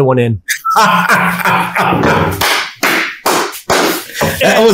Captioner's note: laughing